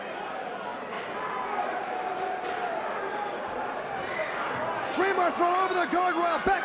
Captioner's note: crowd chatter